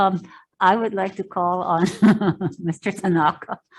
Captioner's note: laughs